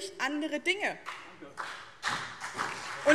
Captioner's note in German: Beifall BÜNDNIS 90/DIE GRÜNEN und CDU